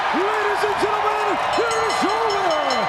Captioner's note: crowd cheering; bell ringing